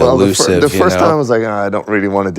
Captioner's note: laughs